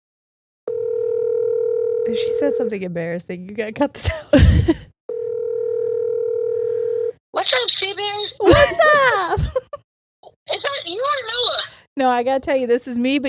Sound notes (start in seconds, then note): 0.6 phone call ringing